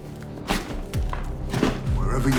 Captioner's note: cash rustling